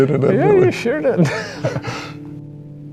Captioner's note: laughs